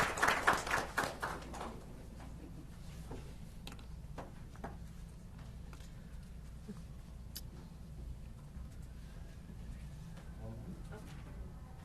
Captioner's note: applause